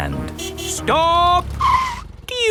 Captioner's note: tires screeching